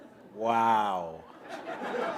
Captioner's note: laughter